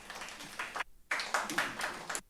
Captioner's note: applause